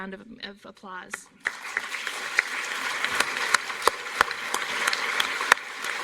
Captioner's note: applause